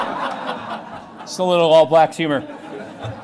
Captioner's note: laugher; laughter